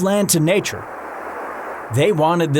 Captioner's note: water flowing